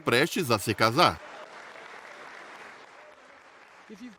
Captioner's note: audience applauds